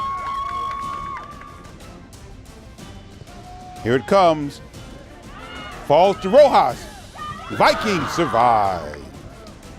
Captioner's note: crowd cheers